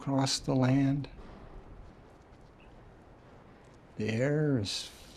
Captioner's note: foot steps echo in a hallway